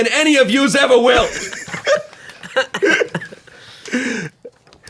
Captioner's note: laughs